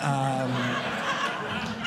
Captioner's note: audience laughing